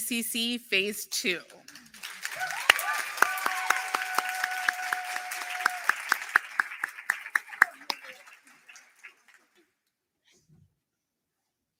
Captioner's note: applause